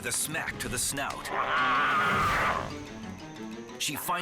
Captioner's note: Sabika snarls